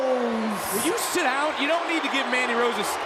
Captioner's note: crowd cheers